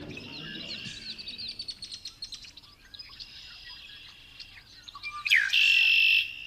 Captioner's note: red-winged Blackbird calling